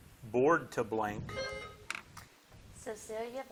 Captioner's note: buzzer buzzing